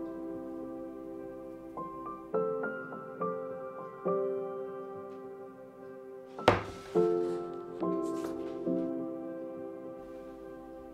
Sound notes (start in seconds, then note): 6.4 wood thuds; 7.3 gentle music continues